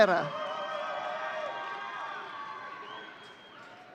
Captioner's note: audience cheering